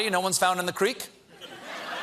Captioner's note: laughter